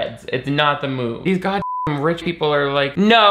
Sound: beep

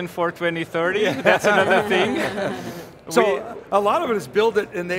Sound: everyone laughs

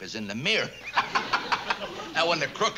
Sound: laughs

